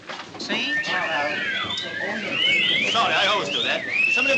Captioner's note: all Whistling